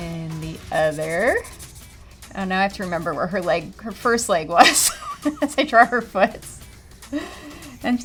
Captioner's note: laugh